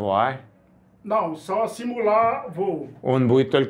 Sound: speaks Portuguese

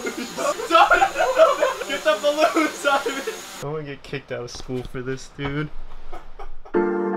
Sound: laugh

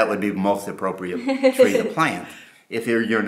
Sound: laughs

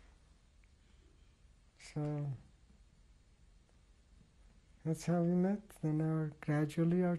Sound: pauses for 3 seconds

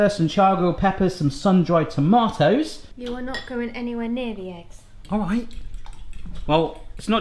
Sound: none

